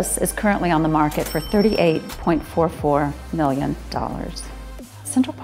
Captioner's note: cash register chimes